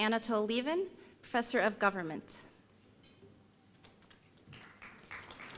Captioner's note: applause